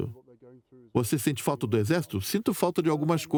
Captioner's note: voiceover